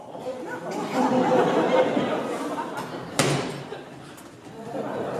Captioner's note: laughter, chest slamming